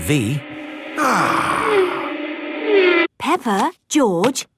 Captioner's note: contented sigh